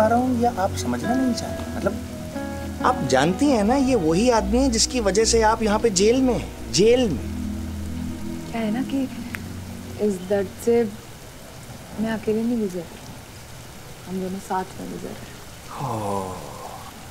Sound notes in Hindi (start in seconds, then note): none